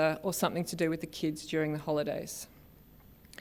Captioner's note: none